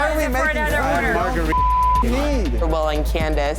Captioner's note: beep